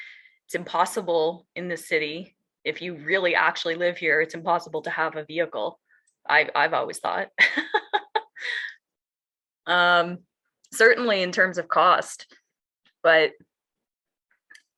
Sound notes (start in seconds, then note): 8.2 laughs